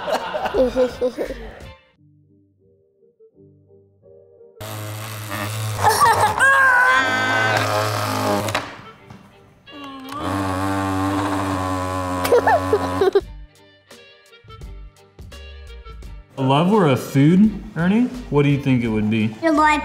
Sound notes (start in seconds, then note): 0.0 laughs; 4.6 buzzing; 5.8 laughs; 7.4 buzzing